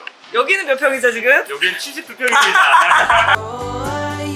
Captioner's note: laughing